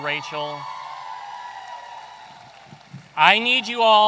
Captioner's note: audience cheering